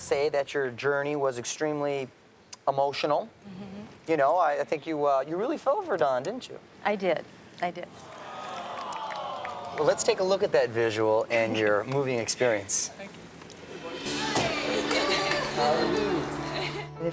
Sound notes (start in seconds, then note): 8.1 audience aws; 14.5 chuckles